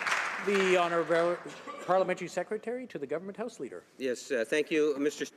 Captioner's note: some Applause